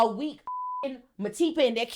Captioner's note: beep